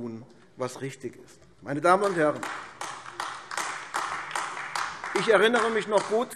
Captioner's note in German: Beifall AfD